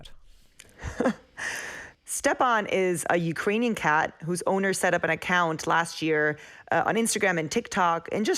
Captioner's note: laughter